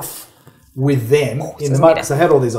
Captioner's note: imitates explosion